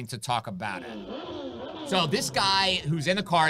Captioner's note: bike engine roaring